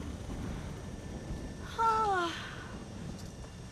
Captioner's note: exhales deeply